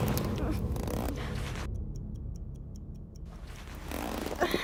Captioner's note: clock ticking softly